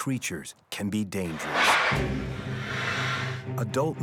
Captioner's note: bear growling